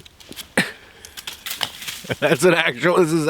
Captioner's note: tree branches rattling